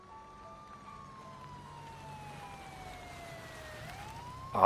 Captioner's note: sirens